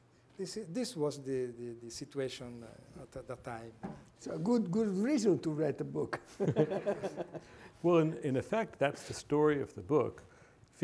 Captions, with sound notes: This was the situation at the time. So a good reason to read a book. (group laughing) - Well, in effect, that's the story of the book,